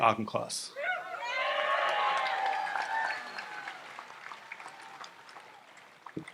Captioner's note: audience applauds and cheers